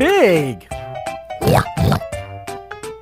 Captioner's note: pig grunts; playful music